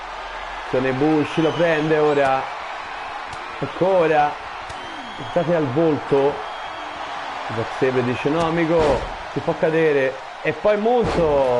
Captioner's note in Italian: Applauso